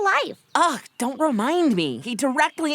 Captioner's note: groans